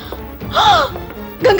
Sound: gasps

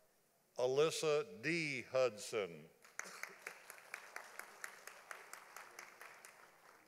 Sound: audience applauding

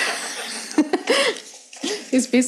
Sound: laughs

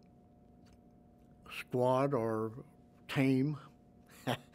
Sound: laughs

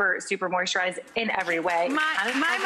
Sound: audience claps

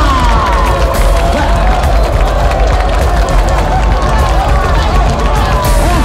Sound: audience cheers and claps

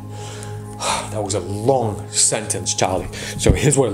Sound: exhales

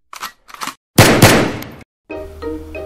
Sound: 2 m9 gunshots

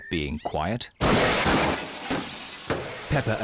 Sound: clattering

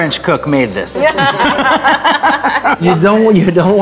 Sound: all laughing

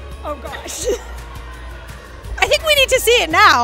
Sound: laughs

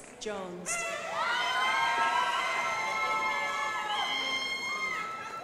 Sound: crowd applauding

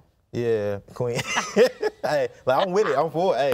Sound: laughs

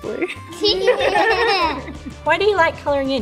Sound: all laugh

